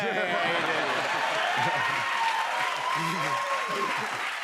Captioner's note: cheers and applause